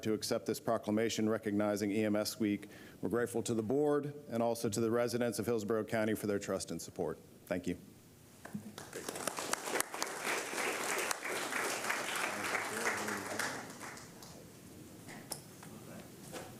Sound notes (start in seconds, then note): 12.6 applause